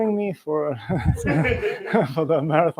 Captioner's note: laughter